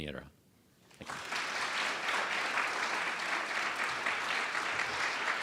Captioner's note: audience applauds